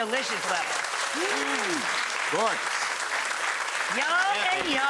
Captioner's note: audience applause